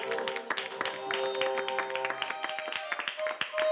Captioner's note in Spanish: aplausos